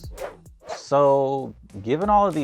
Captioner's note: whoosh sound